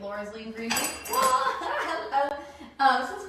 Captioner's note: laughs